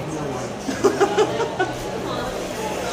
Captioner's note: sensible chuckle